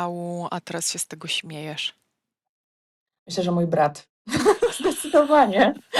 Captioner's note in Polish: śmiech